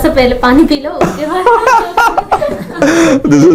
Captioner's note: laughter